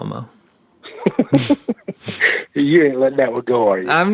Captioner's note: both laugh